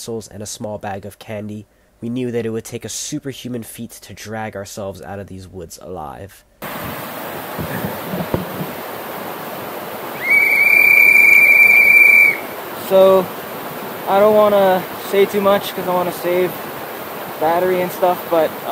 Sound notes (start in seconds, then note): 6.4 whistle